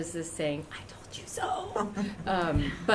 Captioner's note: laughter